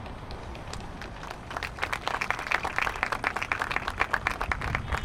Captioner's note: applause